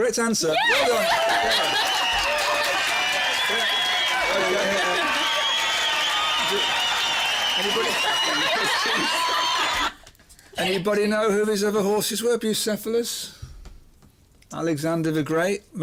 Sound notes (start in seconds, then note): 2.0 cheers